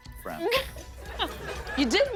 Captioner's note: laughter